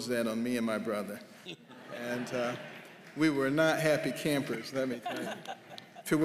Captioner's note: laughter